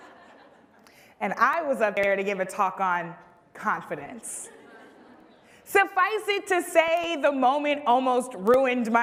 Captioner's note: laughter